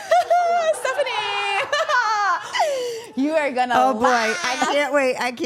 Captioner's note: laughs